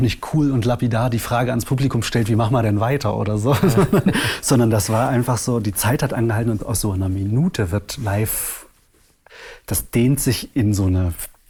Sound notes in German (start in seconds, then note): 3.5 lacht